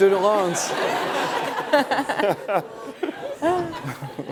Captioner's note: laughter